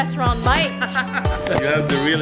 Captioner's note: laughter